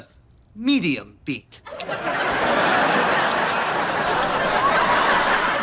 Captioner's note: audience laughter